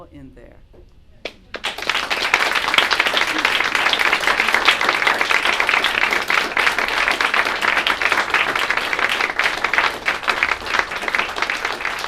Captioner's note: applause